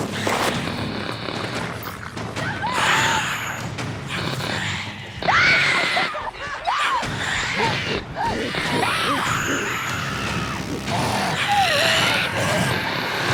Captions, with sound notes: SOMEBODY HELP! [ SCREAMING ] [ SHRIEKING ]